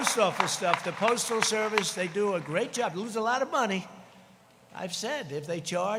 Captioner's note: applause